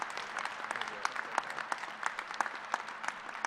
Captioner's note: applause